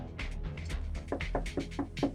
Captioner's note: knock on door